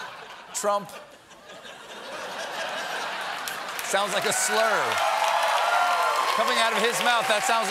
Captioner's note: laughter; cheers and applause